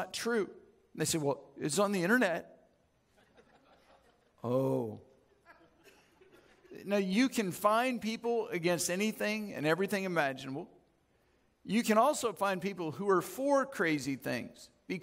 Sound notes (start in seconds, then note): 3.1 audience chuckles